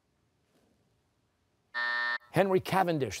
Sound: buzzer

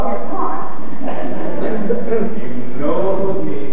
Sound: laughter

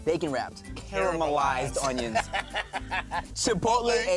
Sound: laughs

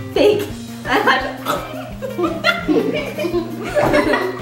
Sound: laughing

